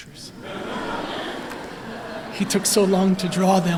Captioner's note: laughter